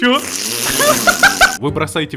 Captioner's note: laugh